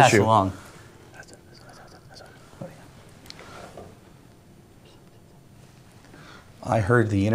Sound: whispering

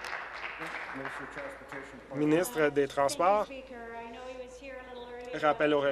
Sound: applause

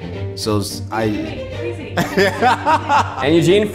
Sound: laughs

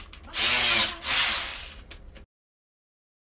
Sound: drilling

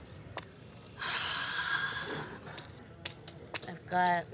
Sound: sighing in frustration

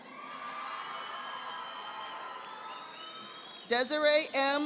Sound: audience applauding

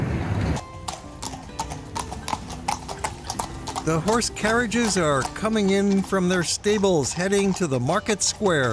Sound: horsehoofs beat pavement

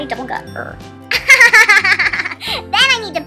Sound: laughs

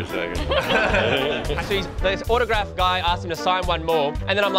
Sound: laughter

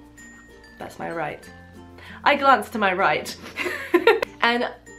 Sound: giggles

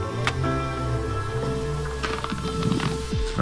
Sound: door creaking

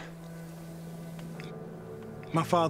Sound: stewart with scottish accent; tense music

